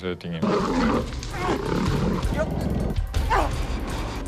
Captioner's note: growling